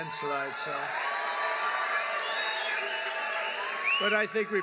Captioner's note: applause